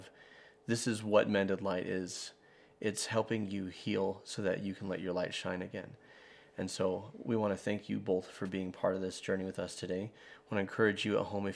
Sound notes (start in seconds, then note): none